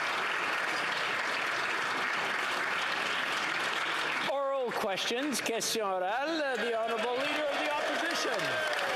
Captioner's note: some Applause